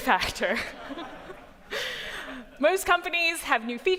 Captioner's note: laughter